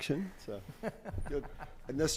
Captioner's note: laughing